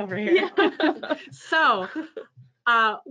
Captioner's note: laughing